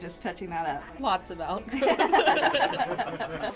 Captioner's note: laughing